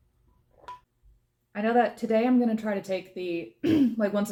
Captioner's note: cough